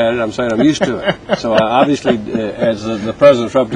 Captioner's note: laughter